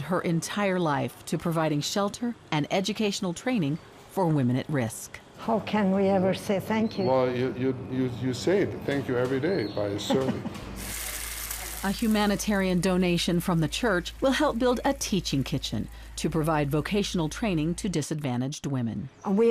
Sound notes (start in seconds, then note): 11.0 food sizzling